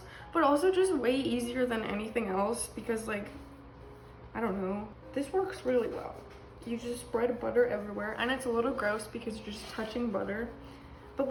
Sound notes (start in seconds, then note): none